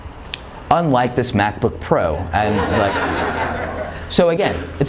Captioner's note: laughing